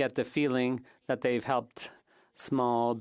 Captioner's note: speaking French